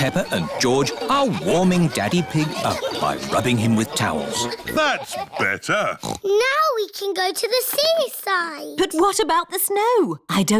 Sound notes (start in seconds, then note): 0.0 laughter; 5.8 oinks